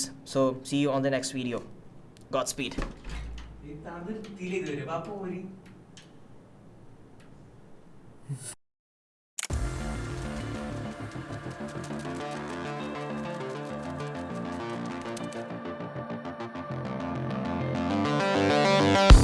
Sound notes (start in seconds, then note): 2.7 door opens; 14.0 mysterious Music